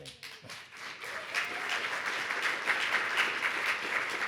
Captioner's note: audience applauds